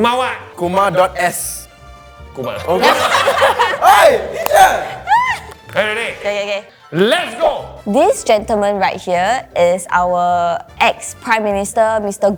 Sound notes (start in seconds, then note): 2.6 all laughing